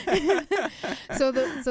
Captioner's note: laughs